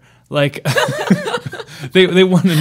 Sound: laughing

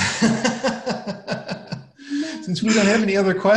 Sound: laughs

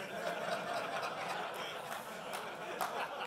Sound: laughter; applause

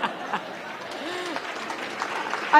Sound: laughter

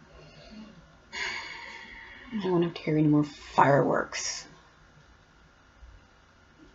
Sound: sigh

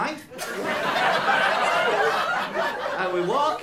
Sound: laughter

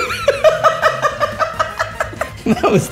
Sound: laughter

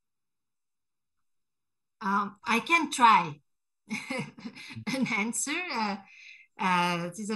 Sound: laughter

